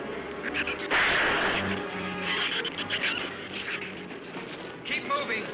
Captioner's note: gunshot